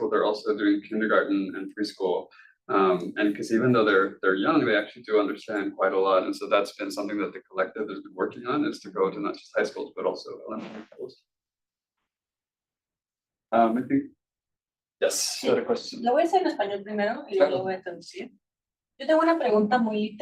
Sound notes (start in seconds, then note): 11.2 faintly speaking; 16.4 attendee speaking Spanish